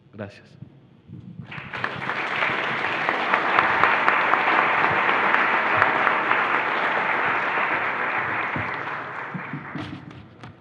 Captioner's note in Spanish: Aplausos